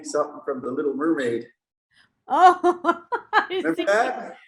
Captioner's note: laughing